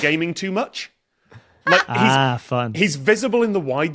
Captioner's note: cackles